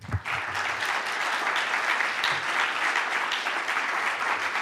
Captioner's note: audience applauding